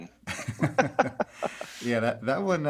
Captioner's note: both laughing